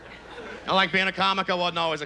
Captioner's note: normal voice